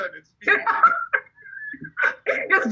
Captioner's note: laughing